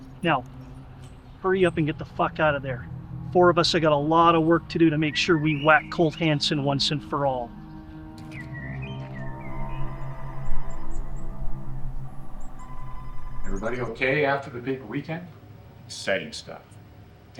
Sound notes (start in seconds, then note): 8.2 phone ringing; 8.2 tense music